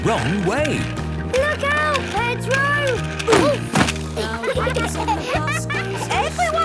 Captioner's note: laughter